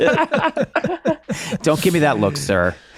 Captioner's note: laughing